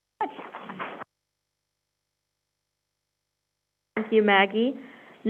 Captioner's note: crowd applauding